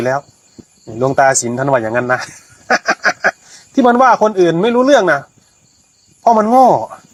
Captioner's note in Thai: เสียงหัวเราะ